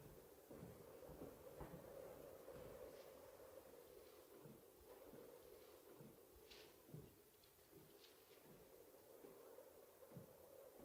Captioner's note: wind blowing faintly